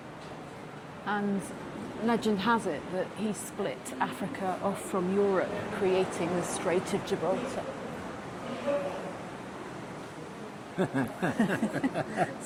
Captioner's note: laughs